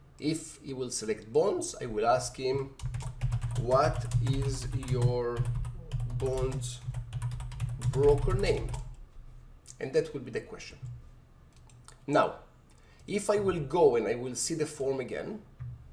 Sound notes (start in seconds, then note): 2.7 keyboard typing